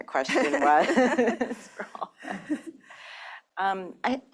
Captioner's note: laughter